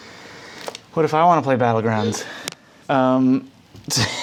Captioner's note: gasps; laughs